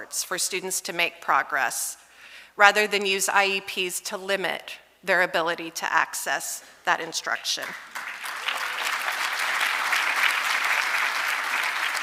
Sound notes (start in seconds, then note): 7.7 audience applauding